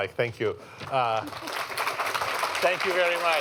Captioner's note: applause